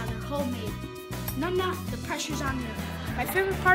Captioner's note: laughter